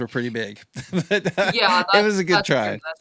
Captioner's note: laughs